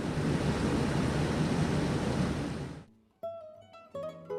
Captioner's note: plane engine rumbling; bright music